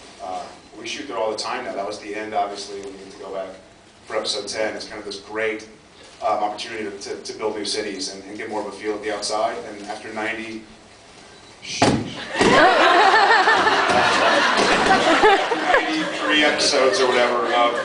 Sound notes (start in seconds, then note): 11.8 thump; 14.9 laughs